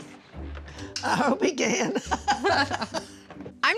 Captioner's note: laughing